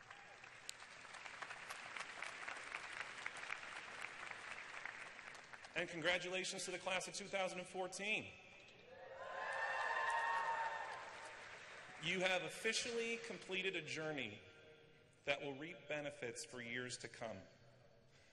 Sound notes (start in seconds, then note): 0.0 applause; 8.9 cheers